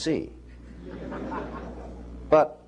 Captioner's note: laughter